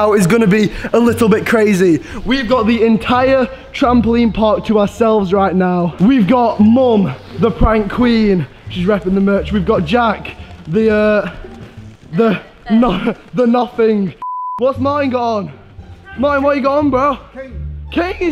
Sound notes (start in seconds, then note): 12.1 laughs; 14.2 beep